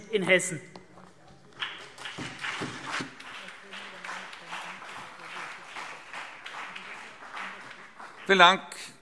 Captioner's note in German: Beifall CDU und BÜNDNIS 90/DIE GRÜNEN